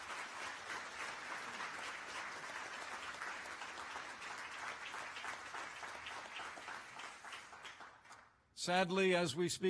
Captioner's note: applause